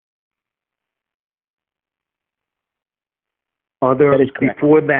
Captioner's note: long silence